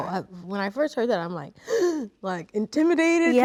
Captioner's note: gasps